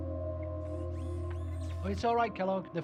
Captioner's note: Kellogg's neck whirring